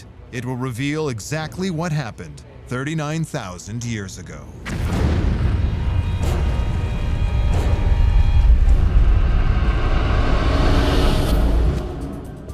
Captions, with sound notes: it will reveal exactly what happened 39,000 years ago. [deep rumble] [eerie music] [rumble climaxes and fades]